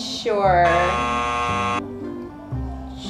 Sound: buzzer buzzing

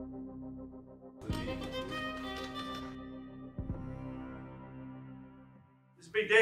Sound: dramatic music continues; door clicks

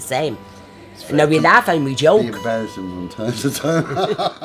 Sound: laughs

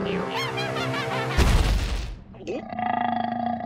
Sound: laughing; thud; gulp

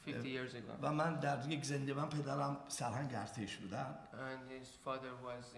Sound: speaking in farsi

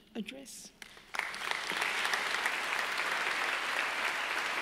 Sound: audience applauding

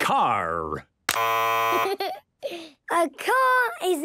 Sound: buzzes

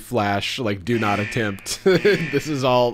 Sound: alarm blaring

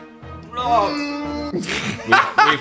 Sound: suspenseful music; groaning; laughs

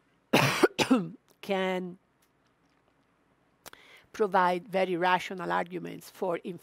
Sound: coughs

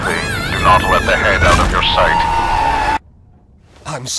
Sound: screaming

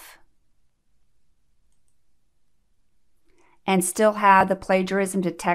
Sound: click

